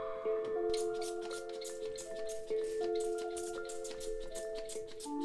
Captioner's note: spray hissing